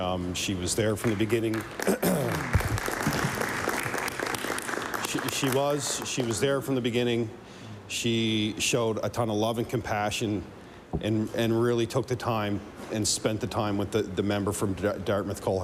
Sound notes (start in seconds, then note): 6.7 applause